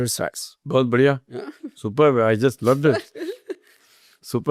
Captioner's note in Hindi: हंसी